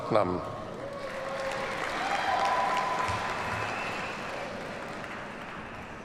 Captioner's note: audience cheers and applauds